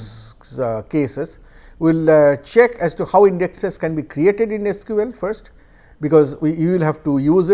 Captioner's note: static